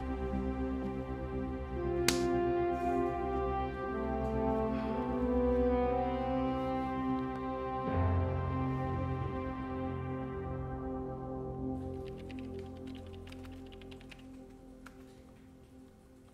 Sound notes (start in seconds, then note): 0.1 epic music playing; 12.0 keyboard clacking